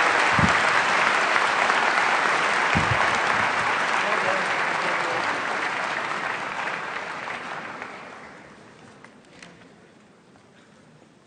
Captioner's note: applause